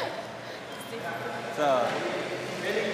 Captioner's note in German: Sie spricht auf Spanisch